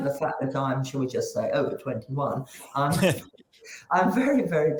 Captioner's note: chuckles